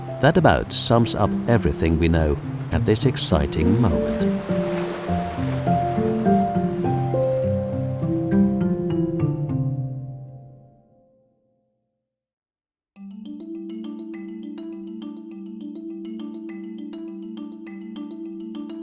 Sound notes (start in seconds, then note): 5.3 waves crashing